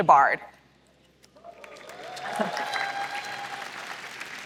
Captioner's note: applause